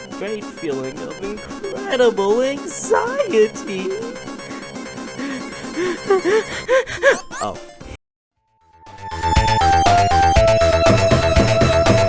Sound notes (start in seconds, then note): 2.6 heavy breathing